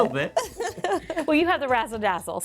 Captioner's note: all chuckling